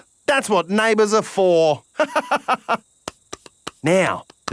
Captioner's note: laughs